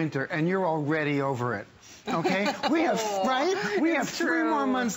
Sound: laughter

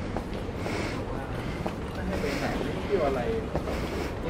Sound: panic breathing

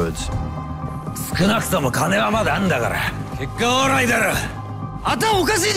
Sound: speaking in japanese

